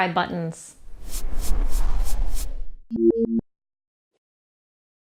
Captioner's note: electronic hums and beeps